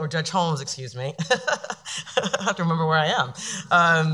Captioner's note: laughing